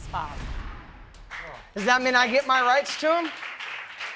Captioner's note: audience clapping